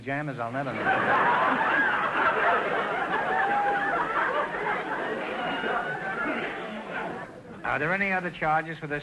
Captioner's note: audience laughter